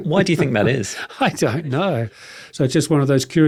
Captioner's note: chuckling